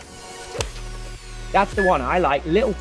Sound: golf club whacks

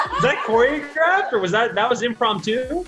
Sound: laughs

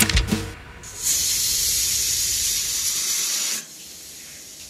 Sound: cooker whistles

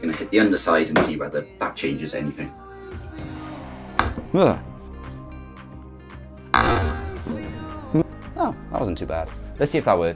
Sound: sound of drive being hit

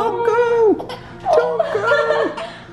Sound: crying

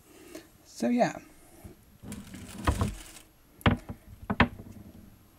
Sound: paper crinkling, setting hooks down

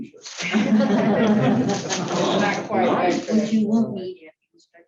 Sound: laughter

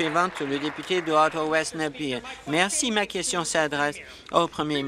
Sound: applause

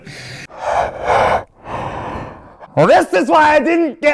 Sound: heavy breathing

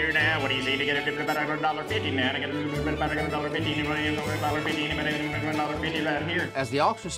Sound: starts auctioneering

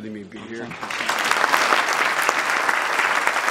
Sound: applause

